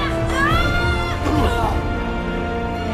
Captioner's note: grunting